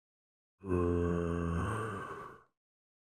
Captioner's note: zombie groans with curiosity